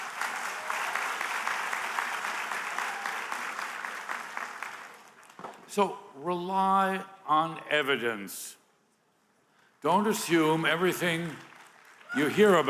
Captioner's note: applause